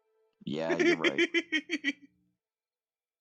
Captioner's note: laughs